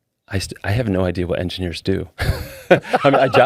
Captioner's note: laughing